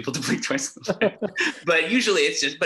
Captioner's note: men laughing